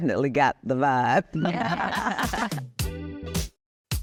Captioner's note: laughing